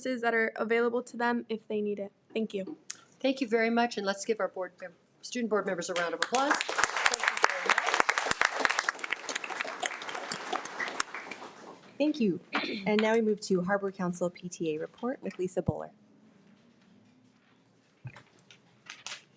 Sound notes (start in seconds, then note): 7.7 audience applauding